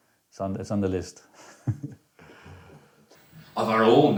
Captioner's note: laughs